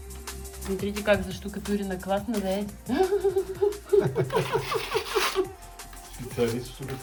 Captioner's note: laugh